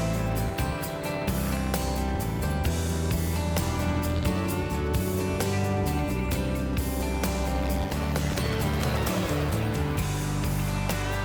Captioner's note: helicopter sounds